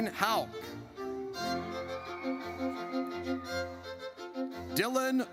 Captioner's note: audience cheers